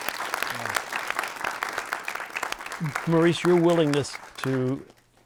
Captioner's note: audience applauding